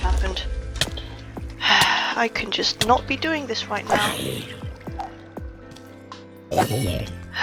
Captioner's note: sigh